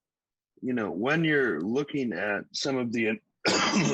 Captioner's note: coughs